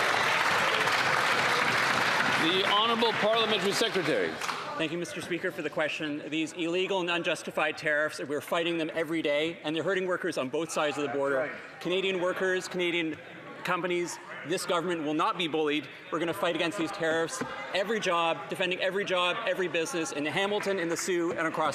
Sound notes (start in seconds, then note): 5.6 some Applause